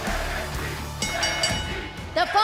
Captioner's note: bell ringing